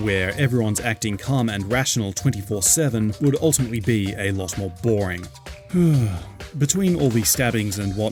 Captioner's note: sigh